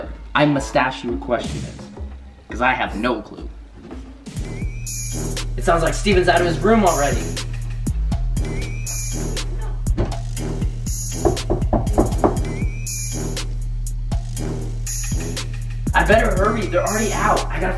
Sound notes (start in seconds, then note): 11.1 knocks